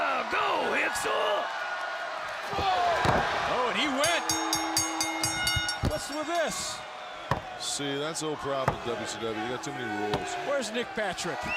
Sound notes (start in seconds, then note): 2.4 crowd chatter; 3.9 bell ringing